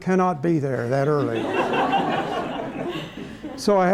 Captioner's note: laughter